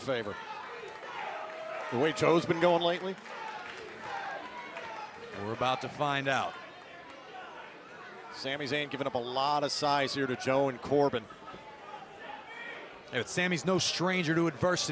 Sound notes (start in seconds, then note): 3.3 crowd chatter; 11.5 crowd chatter